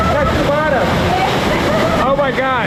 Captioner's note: laughing